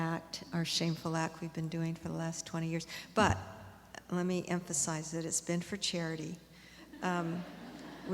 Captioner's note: laughter